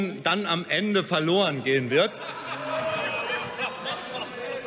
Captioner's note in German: Lachen bei der FDP – Zurufe von der FDP: Oh!